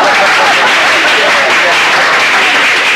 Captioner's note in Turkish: Alkış sesleri